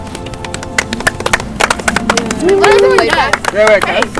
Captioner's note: all clapping